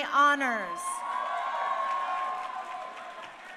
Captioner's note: crowd cheering